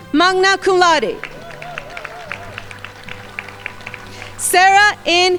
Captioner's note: crowd applauding